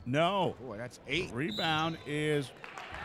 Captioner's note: referee whistling